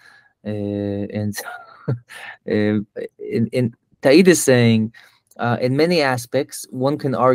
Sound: laughs

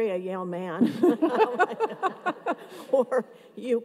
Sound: everyone laughs

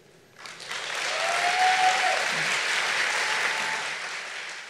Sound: audience applauding

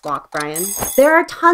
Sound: alarm rings

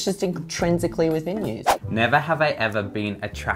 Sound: whooshing

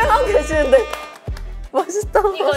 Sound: clapping

